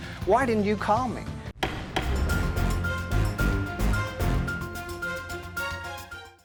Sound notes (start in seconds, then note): 1.2 dramatic music; 1.6 gavel thumping